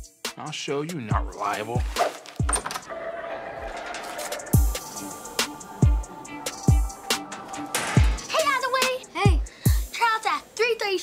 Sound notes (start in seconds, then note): 3.4 hip hop music; 7.2 locker slamming